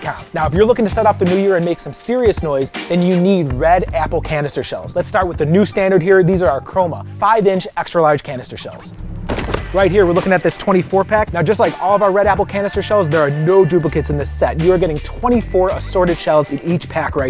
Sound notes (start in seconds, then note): 9.1 box thuds